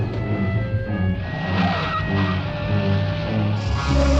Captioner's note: car engine rumbling; tires squealing; snake rattling; suspenseful music